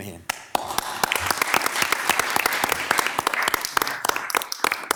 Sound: members clapping

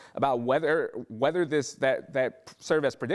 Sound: stammering

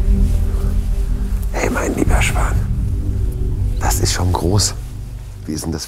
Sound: quiet music; whispered

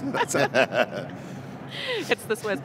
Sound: laughing loudly

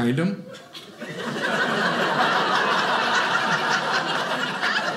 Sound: audience laughing

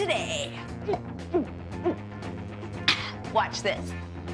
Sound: gulping

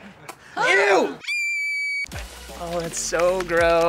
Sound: laughs; girl screaming

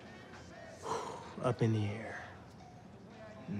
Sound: exhales

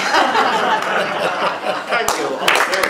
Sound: laughing

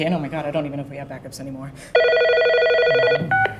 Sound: phone ringing

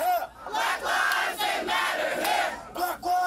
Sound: chanting

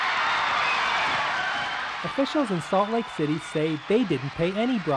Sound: cheering

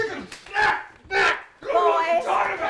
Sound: grunting; screaming

